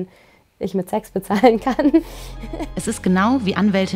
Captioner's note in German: Lachen